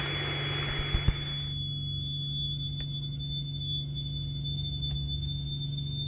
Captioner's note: the static stops